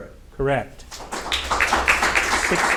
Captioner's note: audience applauding